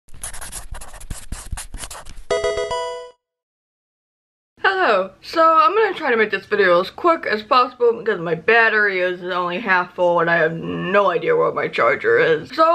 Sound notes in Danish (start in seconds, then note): 2.3 pokemon game lyd